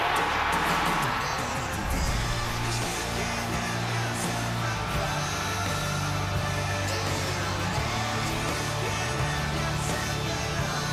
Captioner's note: cheering